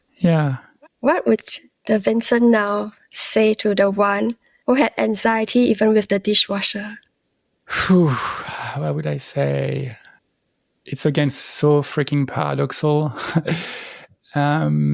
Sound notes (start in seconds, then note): 7.7 sigh; 8.2 breath